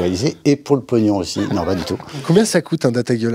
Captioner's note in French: rires